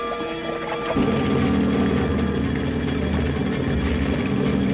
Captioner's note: engine rumbles